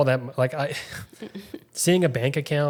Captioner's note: both chuckles